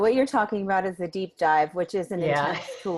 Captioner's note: laughs